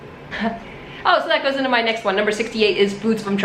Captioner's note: chuckles